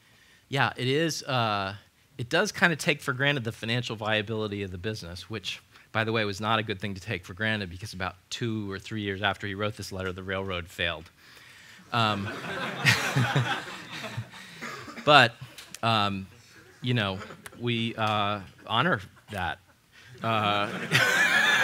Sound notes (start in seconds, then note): 12.1 laughter; 20.0 laughs